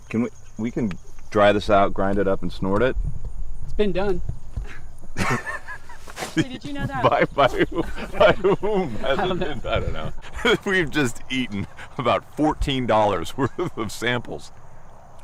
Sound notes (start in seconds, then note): 4.8 chuckles; 5.3 laughs; 7.2 mumbles